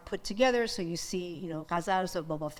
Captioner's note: speaks in foreign language